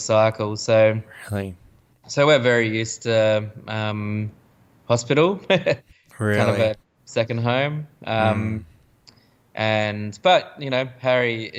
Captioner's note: laughs